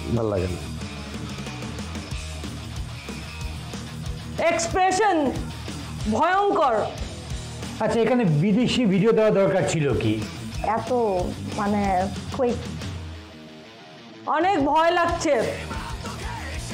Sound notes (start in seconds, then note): none